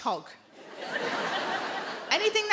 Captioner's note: audience laughing